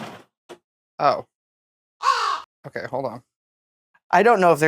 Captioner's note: caw